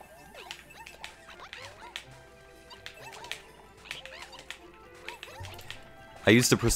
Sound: controller clicks

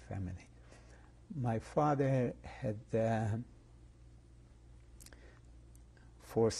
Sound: pauses for 3 seconds

